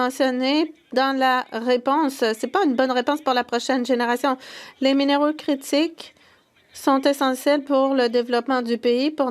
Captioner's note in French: voix de l'interprète